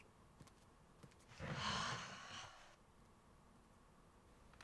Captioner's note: Tilly sighing